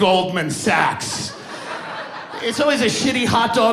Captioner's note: audience laughing